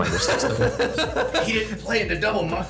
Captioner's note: laughing